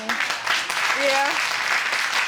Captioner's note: audience applauding